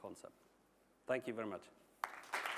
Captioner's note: applause